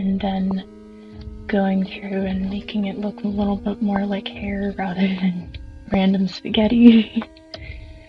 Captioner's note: laughs